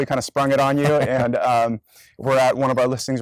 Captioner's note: laughs